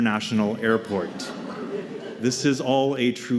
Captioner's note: laughter